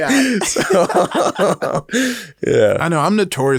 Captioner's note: both laugh